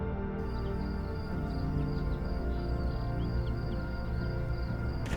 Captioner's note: birds chirping